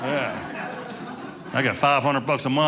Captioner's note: audience laughing